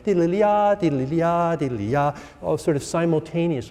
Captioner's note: instructor vocalizing